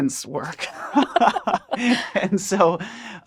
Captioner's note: both laugh